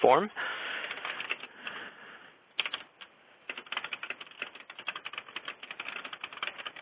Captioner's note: typing